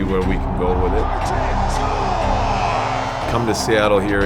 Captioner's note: crowd cheering